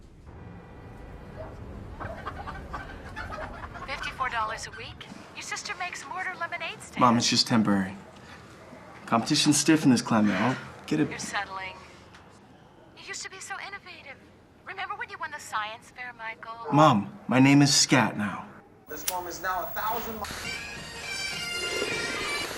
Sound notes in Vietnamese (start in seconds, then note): 0.1 tiếng còi xe; 1.2 tiếng sủa đằng xa; 2.0 tiếng gà cục tác; 10.6 thở dài; 18.8 tiếng người đàn ông trên TV; 18.9 tiếng chuyển kênh